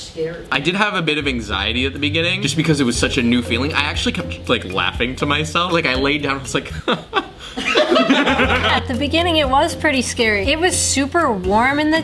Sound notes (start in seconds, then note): 6.7 makes chuckle sound; 6.7 everyone laughs